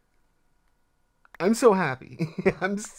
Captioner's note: laughs